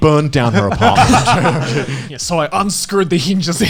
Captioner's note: laughing